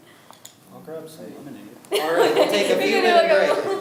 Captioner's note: laughing